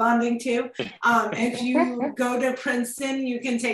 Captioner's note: group laughs